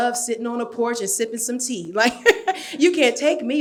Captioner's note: laughs